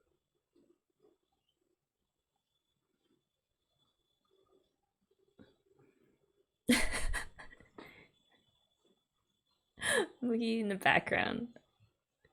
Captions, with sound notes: [laughs] Mugi in the background.